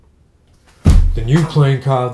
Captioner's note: body hits wall